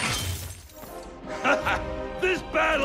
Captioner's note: laughs